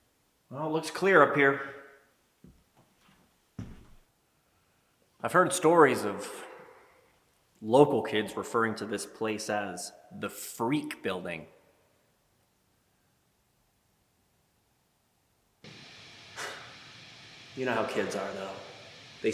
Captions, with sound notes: Well, it looks clear up here. I've heard stories of local kids referring to this place as the freak building. (static hissing) (Jacob sighs) You know how kids are though?